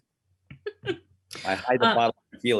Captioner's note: laughs